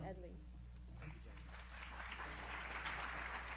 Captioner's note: applause